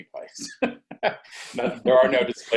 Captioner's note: laughs